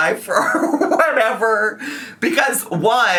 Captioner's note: laughs